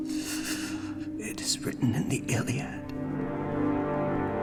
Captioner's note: gasping